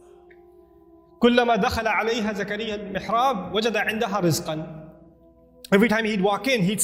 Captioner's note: Arabic